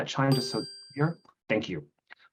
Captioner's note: bell chiming